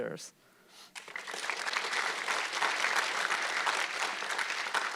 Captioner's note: audience clapping